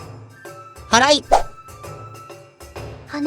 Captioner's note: sweeping